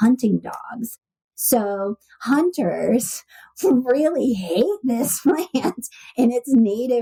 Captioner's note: laughs